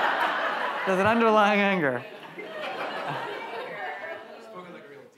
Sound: audience laughs; audience chattering

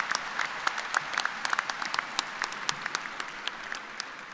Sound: applause

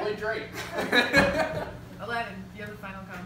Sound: laughter

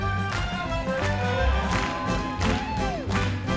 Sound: crowd cheers; all clap

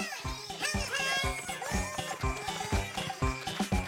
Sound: Bongolalas chattering; upbeats playing

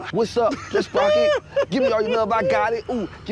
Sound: laughs

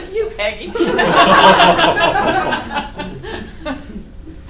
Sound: laughter

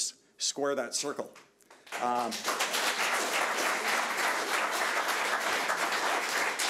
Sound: audience applauding

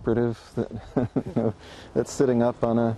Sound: chuckling

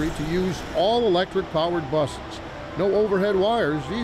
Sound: traffic whooshes; motor rumbles

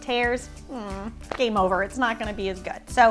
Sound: groans

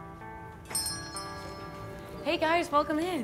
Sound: cart rattles; bell dings

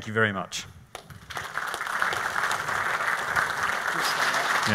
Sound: clapping

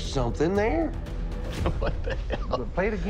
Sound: chuckling

